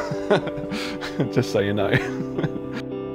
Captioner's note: laughs